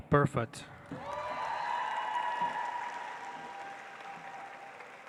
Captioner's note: audience applauds